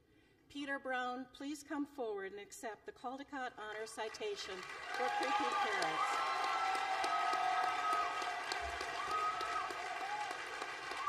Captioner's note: applause